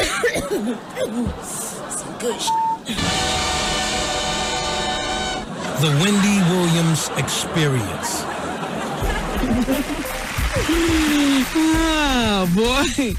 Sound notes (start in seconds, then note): 0.0 coughing; 9.3 applause; 9.8 laughter